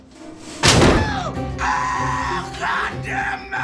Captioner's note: loud bang